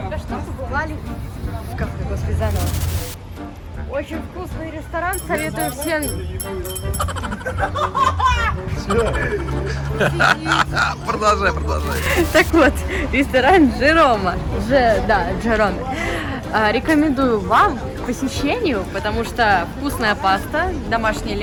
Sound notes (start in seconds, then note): 6.9 laughter